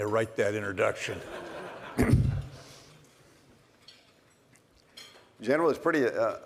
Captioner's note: laughter